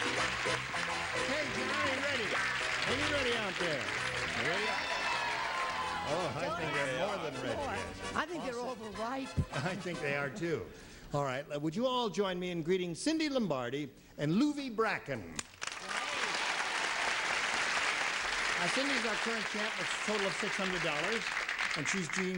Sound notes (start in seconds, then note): 4.4 audience cheering